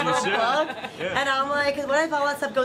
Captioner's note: laughter